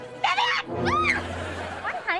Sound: screaming

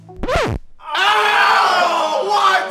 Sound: guys screaming

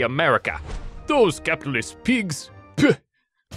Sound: spits

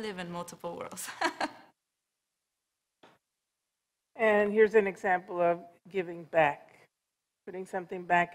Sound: laughs

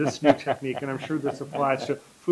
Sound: laughter

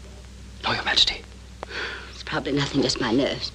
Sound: sigh

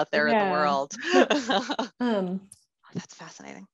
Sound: laughing

